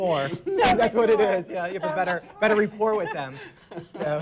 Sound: laughter

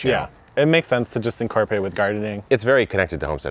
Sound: none

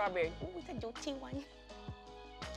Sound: silly voice

